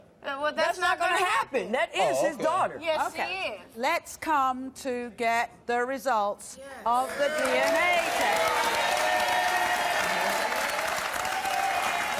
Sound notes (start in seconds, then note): 7.1 audience applauding